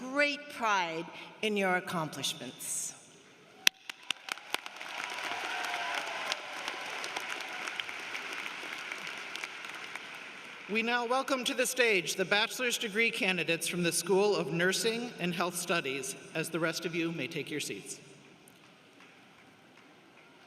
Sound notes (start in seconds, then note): 7.0 applause